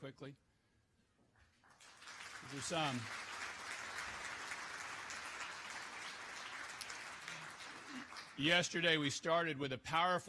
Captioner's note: applause